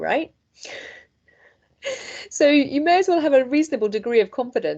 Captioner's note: chuckles